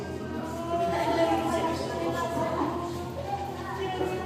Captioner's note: indistinct chatter